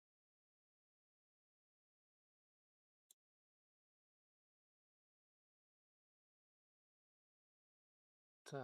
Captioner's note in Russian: none